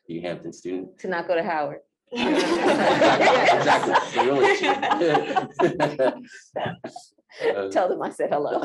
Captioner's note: laughter